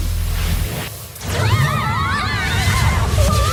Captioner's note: screaming